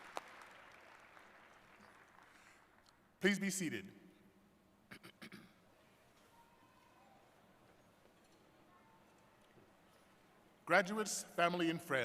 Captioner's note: cheers and applause